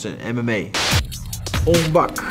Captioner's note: static crackles; upbeat music